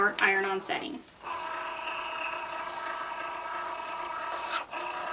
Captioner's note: machine whirring